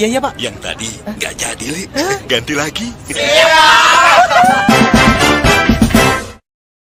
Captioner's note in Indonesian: berteriak